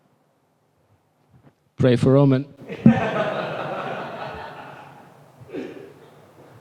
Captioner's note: laughter